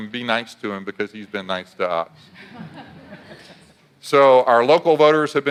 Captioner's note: audience laughs